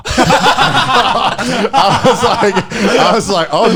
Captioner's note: laughing